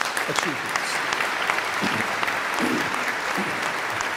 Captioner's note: all clapping